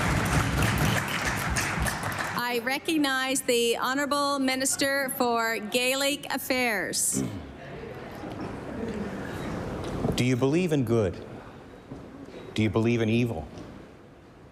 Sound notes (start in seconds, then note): 0.0 applause